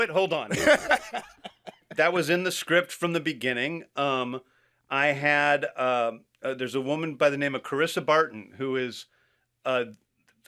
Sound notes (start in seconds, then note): 0.5 laughs